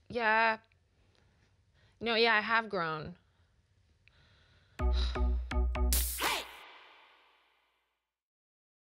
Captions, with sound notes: Yeah... No, yeah, I have grown. [SIGHS]